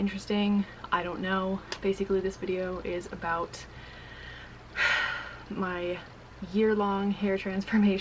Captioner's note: sighs